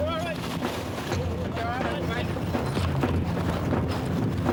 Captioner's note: wind whooshing; intense music